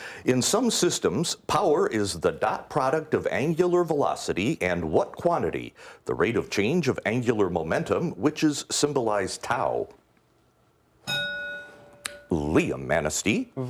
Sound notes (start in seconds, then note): 11.0 ding